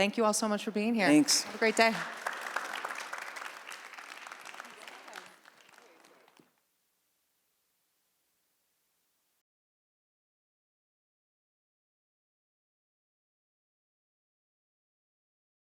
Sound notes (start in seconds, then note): 3.2 applause